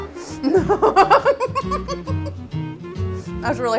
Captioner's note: laughs